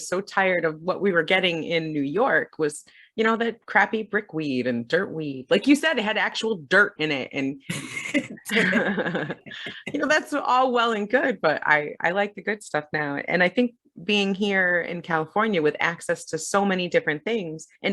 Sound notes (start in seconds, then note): 7.7 both laugh